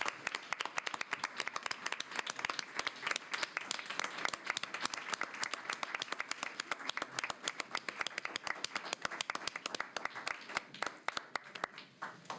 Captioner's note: applause